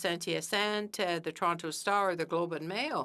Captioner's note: speaking French